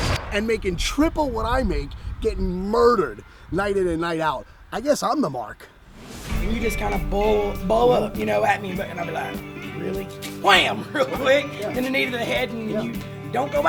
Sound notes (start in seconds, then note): 10.5 laughs